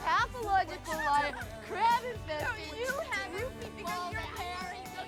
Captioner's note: drunken banter